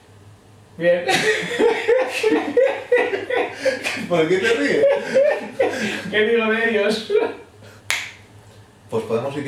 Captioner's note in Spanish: Laughs